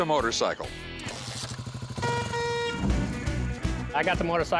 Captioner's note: horn beeping